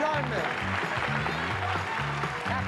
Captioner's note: applause